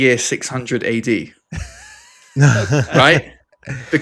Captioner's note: laughs